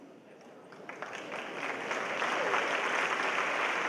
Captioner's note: applause